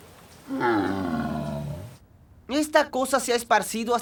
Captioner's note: groaning